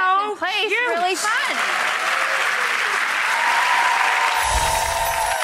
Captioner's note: audience applauding; bells chiming